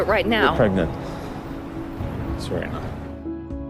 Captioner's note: voiceover